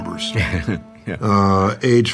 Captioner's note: laughs